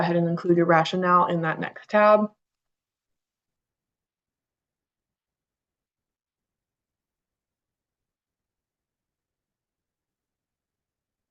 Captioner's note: pause